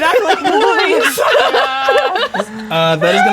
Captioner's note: players laughing